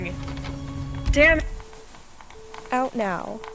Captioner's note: tape recorder cuts off, dial tone